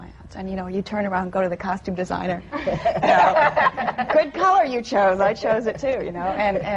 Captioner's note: laughter